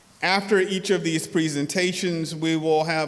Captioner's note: none